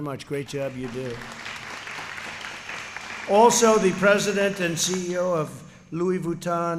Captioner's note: applause